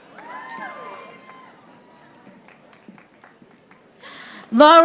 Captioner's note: audience applauding